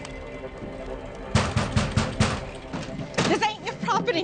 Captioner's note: pounding on door